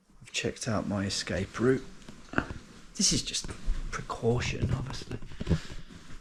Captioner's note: none